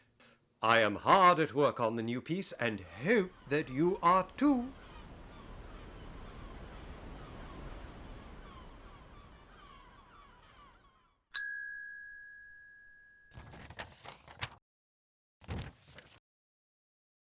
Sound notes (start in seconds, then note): 11.3 call bell ring; 13.3 paper rustling